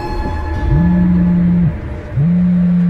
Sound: phone Ringing

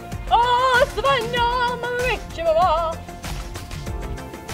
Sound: speaks foreign language

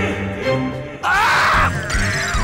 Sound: screaming

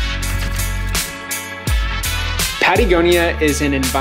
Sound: camera shutter sounding

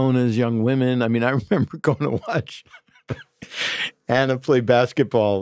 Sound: laughs

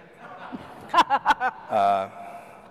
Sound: laughter

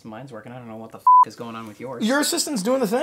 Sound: beep

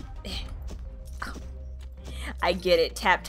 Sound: scoffs

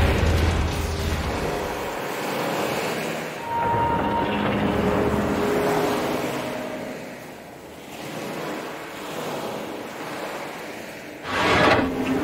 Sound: water sounds

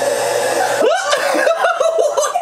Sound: laughing

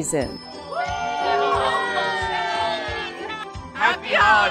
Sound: cheers

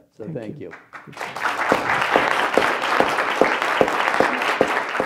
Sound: audience applauds

